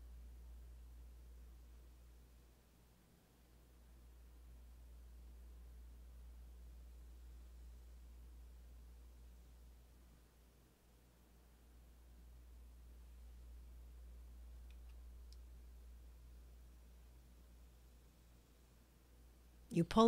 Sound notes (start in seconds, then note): 4.8 silence